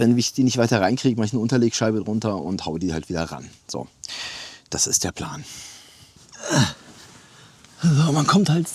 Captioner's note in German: seufzt